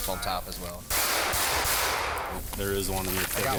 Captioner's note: gunshots ring out